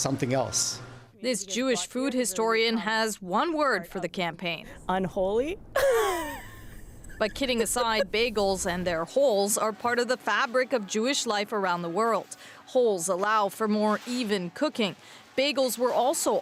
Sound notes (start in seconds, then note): 8.4 laughter